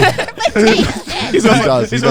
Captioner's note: everyone laughing